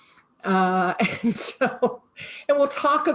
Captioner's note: laughing